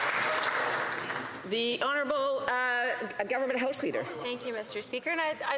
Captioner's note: some Applause